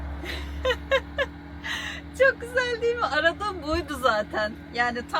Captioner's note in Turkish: kahkaha